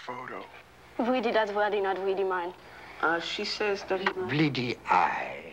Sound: Molly speaking in foreign language; Pierre speaking in foreign language

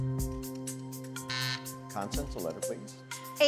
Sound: buzzer

